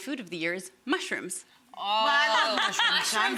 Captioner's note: audience clamors